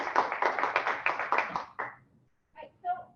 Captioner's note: applause